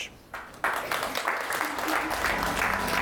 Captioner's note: audience applauds; ethereal music